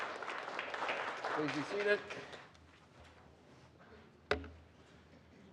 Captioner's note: applause